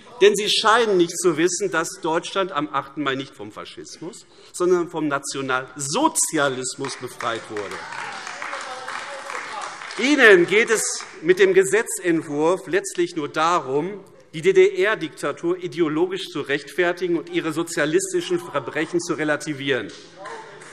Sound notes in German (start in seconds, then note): 6.8 Beifall AfD